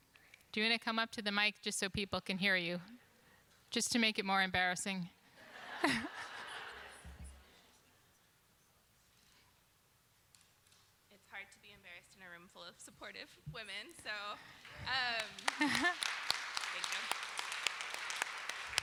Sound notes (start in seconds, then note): 5.4 laughter; 14.6 applause